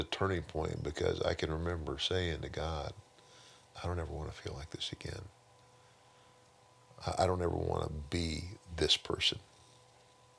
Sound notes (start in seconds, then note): none